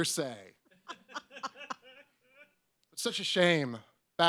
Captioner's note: audience members laugh